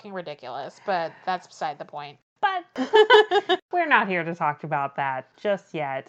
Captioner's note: laughs